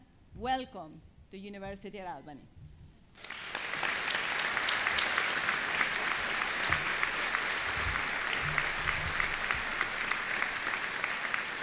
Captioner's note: applause